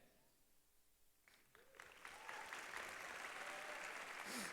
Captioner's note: applause